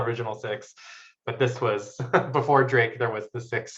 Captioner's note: laughs